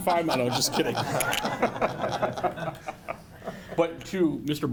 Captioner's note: laughing